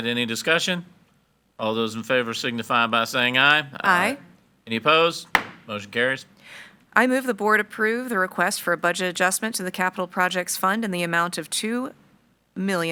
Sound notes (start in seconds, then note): 5.3 gavel bangs